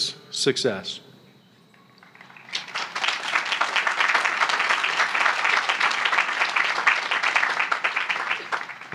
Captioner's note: applause